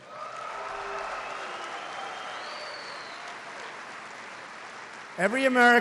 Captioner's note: applause